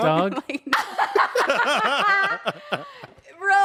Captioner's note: everyone laughs